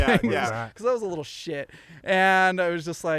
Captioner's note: all laughing